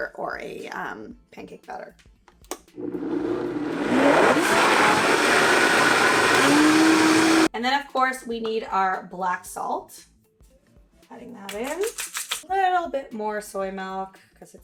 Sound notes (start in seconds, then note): 2.8 whirring